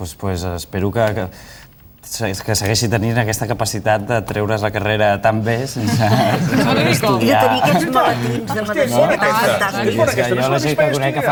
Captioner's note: laughs